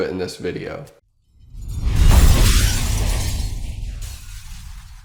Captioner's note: logo whooshing